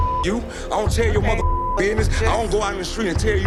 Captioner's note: beeping